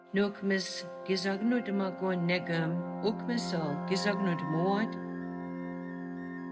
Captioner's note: speaking Passamaquoddy